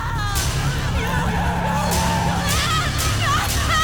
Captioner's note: tires screech; woman screaming